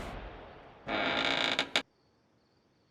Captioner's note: creaking